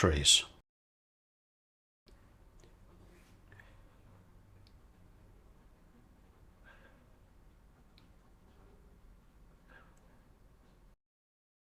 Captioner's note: silence